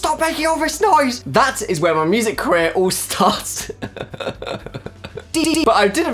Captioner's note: laughs